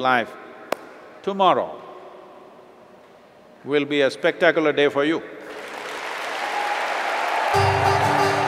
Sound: clapping hands; applause/Cheers/Laughs

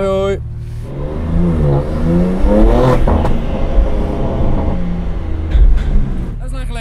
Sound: sound driving car

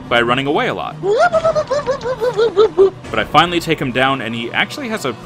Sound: DR. ZOIDBERG: Woop woop woop woop woop woop!

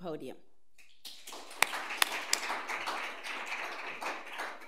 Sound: audience applauds

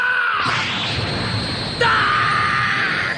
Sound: SFX: spell sound

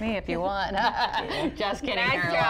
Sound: laughter

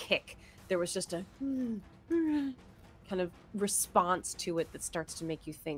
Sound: moans

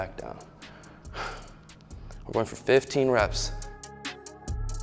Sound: exhales; upbeat music

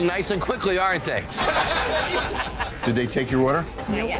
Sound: patrons laughing

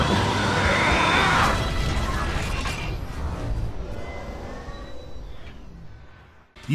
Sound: mechanical Sounds

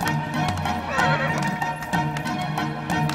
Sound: horse whinnies; clapping in rhythm

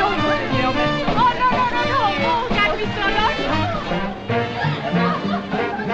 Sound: speaking French; jazz On Jukebox

